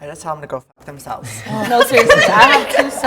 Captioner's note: everybody laughs